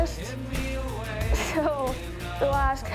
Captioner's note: laughs